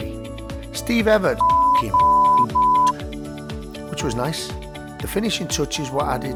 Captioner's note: beep